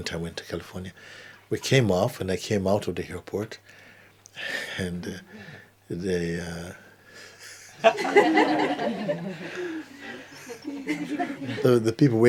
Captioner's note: laughter